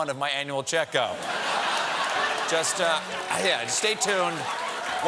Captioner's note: laughter